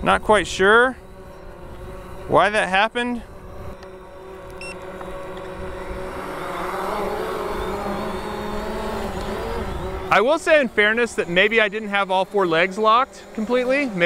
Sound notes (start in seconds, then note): 3.4 drone beeps; 6.2 drone whirs